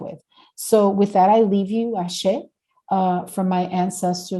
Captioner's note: speaking Spanish